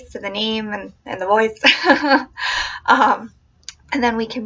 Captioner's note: laughing